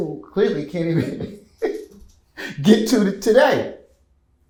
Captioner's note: laughs